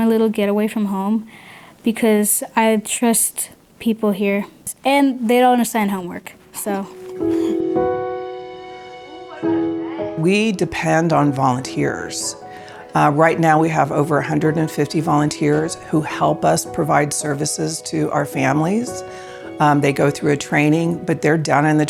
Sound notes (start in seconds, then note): 6.8 chuckles